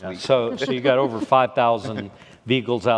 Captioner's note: laughing